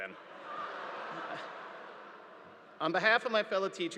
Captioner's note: audience laughing